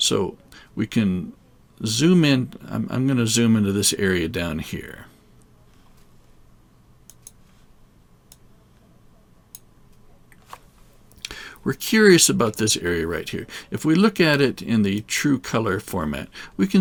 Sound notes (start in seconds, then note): 7.0 clicking